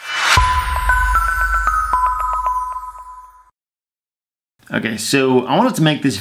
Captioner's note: bell-like electronic tones